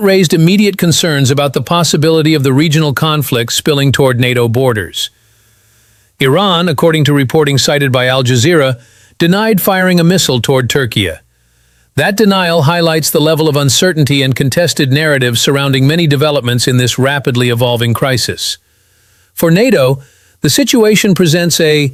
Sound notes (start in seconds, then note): 6.3 sighs